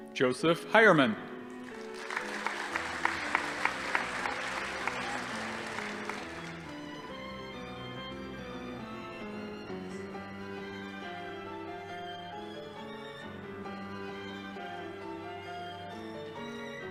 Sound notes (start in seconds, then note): 1.6 audience applauding